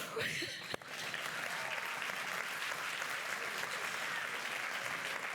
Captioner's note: applause